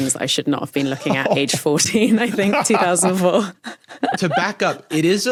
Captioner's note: chortles